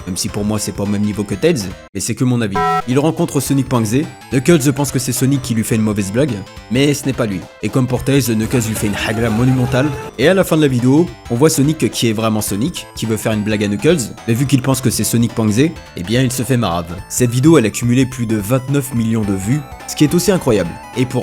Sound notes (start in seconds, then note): 2.5 b o n k